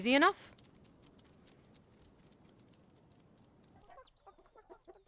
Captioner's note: dog claws tapping; chickens clucking